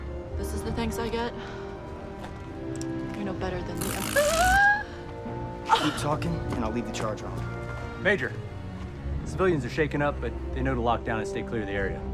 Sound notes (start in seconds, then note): 4.3 shocking noise